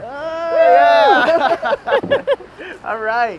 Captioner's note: all cheering & laughing